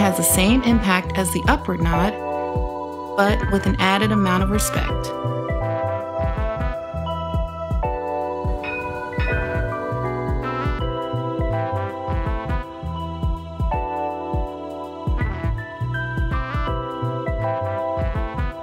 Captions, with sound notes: It has the same impact as the upper nod, but with an added amount of respect. (bell tolling) (instrumental music)